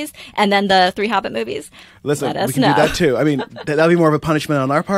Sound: laugher

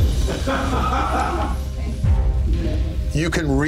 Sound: suspenseful music; laughing

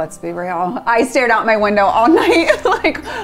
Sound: chuckles

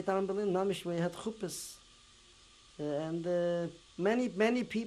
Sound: non-english

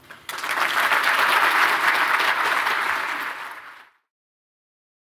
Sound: applause

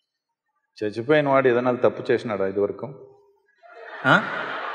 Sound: laughter

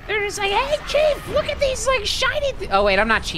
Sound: high screechy voice

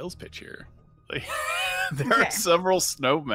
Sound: laughs

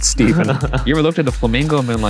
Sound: laughs

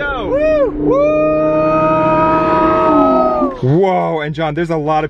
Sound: cheering

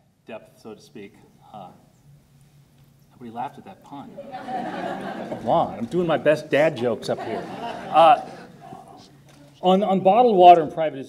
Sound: audience laughter

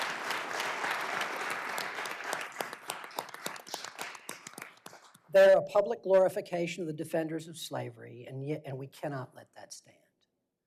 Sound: applause

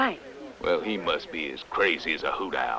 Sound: none

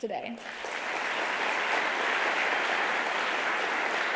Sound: audience applauding

